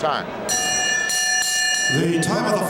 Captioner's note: bell rings